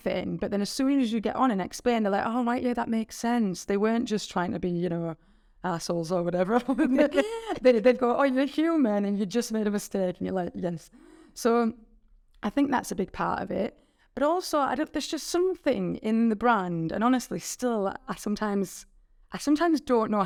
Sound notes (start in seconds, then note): 6.6 chuckling